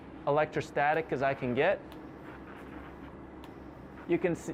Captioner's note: sprays